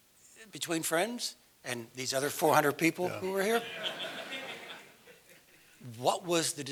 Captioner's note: laugh